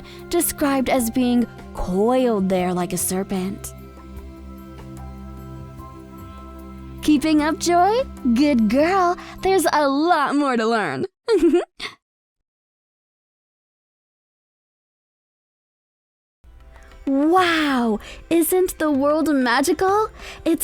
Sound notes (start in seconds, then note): 3.6 soft music; 11.3 chuckles